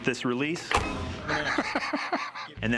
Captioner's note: laughs